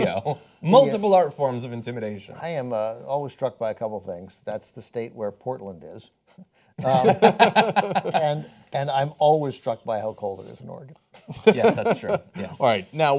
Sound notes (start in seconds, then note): 6.8 laughter